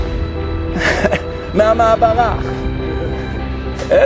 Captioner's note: giggle